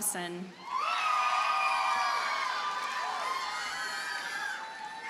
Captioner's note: audience cheers and applauds